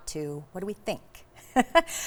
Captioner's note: laughs